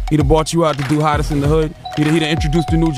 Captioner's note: bell dinging